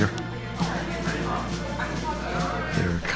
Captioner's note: people chattering